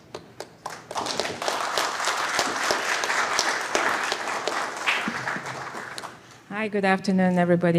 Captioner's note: applause